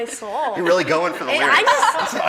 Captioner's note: laughing